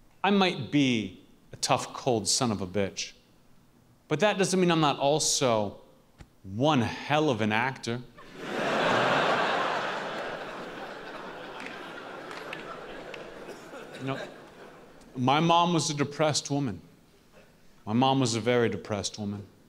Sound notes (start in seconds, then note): 8.2 laughs